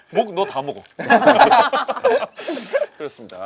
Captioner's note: laughing